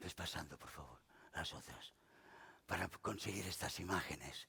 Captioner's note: speaking spanish